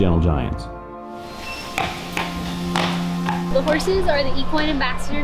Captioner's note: horse clopping